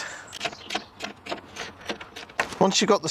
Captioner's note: ratchet mechanism